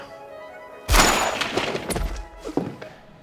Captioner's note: shotgun